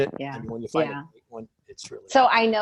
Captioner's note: speaking faintly